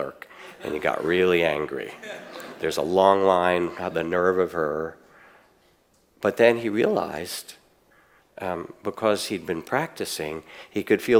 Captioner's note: audience laughs